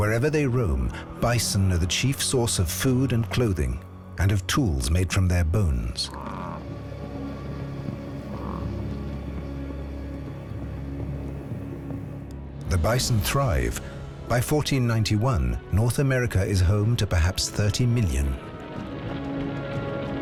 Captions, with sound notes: Wherever they roam, bison are the chief source of food and clothing and of tools made from their bones. [grunting] The bison thrive. By 1491, North America is home to perhaps 30 million.